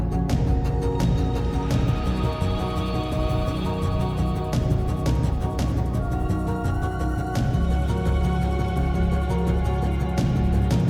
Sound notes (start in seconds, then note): none